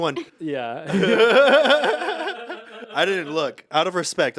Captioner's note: group laughs